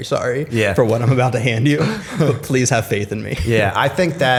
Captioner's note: chuckle